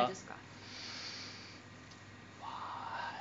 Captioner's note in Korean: 스읍